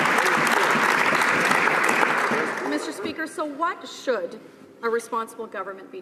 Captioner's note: some applause